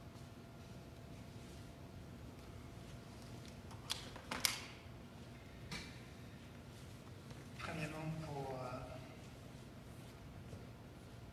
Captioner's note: speaking French